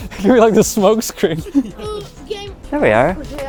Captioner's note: laughing